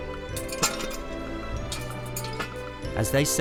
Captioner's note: jack rattles as he places it